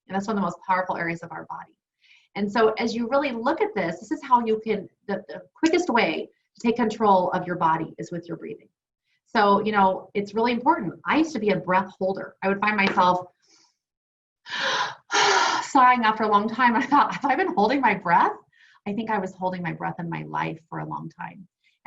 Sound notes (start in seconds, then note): 14.5 gasps